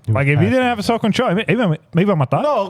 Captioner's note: speaking In Foreign Language